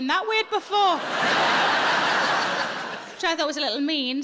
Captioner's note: audience laughing